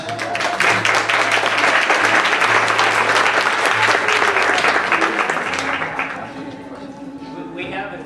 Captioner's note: applause